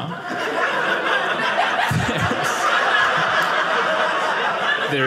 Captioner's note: audience laughing